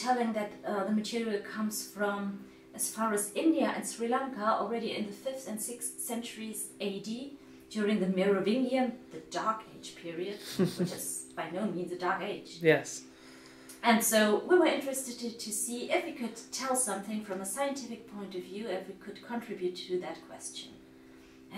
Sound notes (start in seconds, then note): 10.4 man laughing